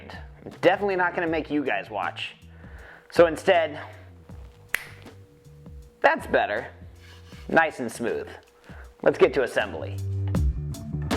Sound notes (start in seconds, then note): 4.7 fingers click